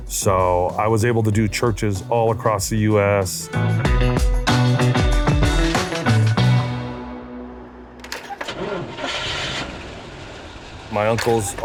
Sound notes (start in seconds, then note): 4.0 upbeat music; 8.4 car engine revving